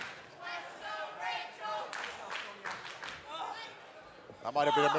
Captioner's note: fans chanting